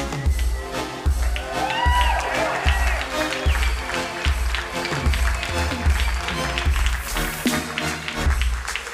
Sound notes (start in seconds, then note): 0.2 crowd cheering and applauding; 5.8 upbeat music